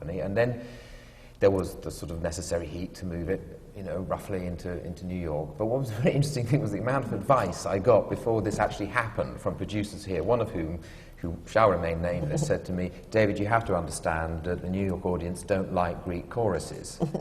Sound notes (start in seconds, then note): 5.4 laughs